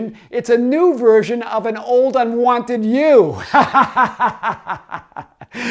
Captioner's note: laughs